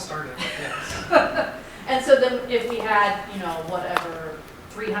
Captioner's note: laughs